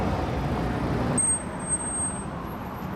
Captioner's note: bell rings